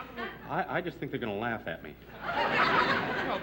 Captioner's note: laughter